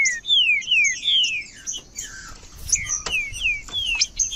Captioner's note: trinca ferro cantando